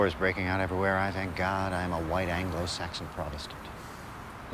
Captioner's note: none